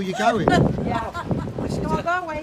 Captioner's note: laughter